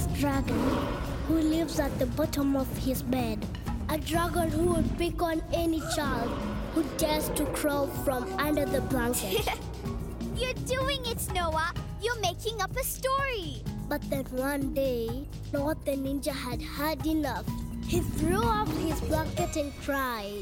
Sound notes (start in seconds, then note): 7.8 Sema laughs